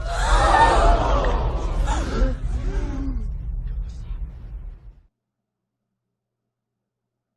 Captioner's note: crowd gasping sound effect